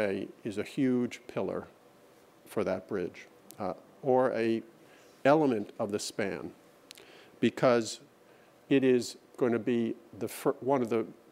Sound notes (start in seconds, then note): none